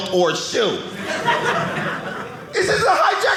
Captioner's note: audience laughing